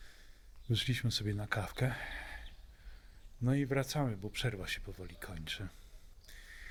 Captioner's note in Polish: westchnienie